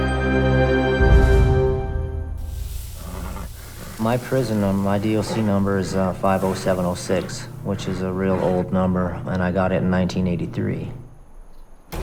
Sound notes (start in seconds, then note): 2.1 sizzling; 2.5 neighing